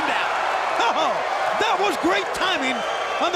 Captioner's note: crowd cheering